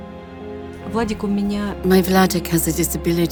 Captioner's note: speaking foreign language